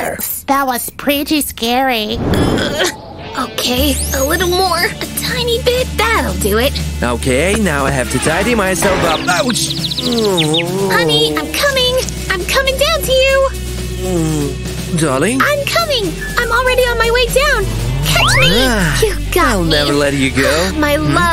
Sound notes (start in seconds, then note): 2.5 grunting; 10.0 moan in pain